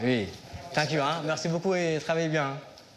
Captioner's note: speaks foreign language